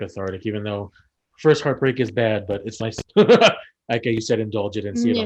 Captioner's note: laughs